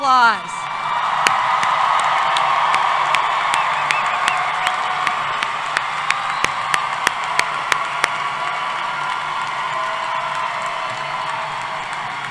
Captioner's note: applause